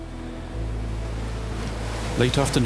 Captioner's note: splashing